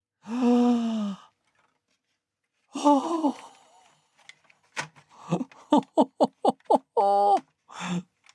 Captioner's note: gasp; laughter